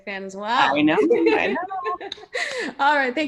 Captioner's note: laughs